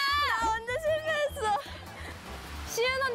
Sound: ah

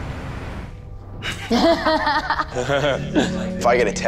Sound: people laugh

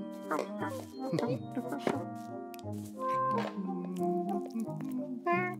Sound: Simon cheerily humming

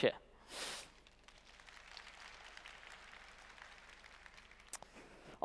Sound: applause

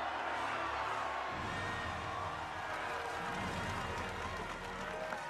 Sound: crowd cheers and applauds

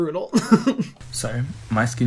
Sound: laughs

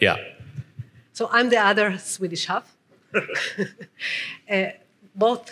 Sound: chuckling

